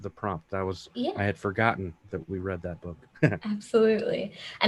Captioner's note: chuckling